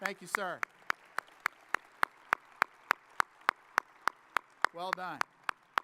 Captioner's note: audience applauding